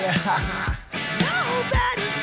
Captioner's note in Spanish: Risas